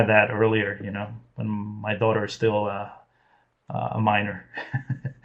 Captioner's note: laughs